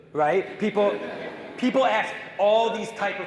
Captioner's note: audience laughing